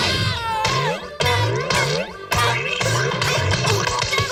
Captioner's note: yelping